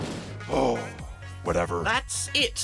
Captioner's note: sighs